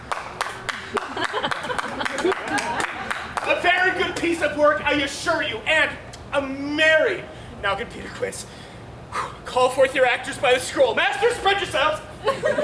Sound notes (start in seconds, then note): 0.0 Bottom claps; 0.7 audience laughs